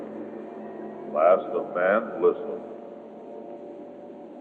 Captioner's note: disembodied Voice